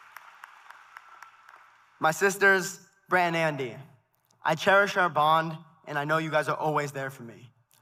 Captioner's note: applause